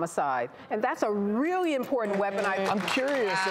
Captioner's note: applauding